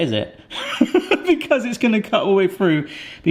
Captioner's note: person laughing